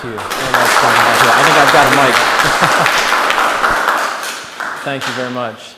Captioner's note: applause